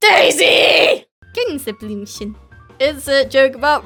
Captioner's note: intense screaming; calm voice